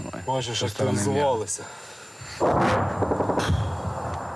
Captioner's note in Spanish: Audio hablado en ucraniano